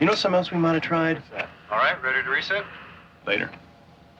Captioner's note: man On Radio